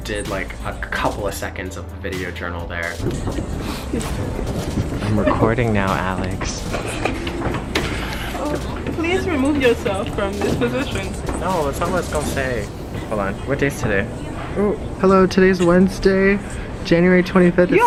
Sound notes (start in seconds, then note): 6.6 laughs